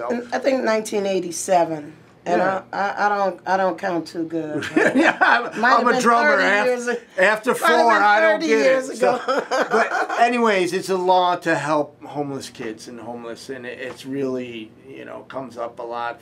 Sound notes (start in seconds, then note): 4.6 laughing